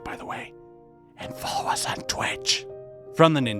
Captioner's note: whisper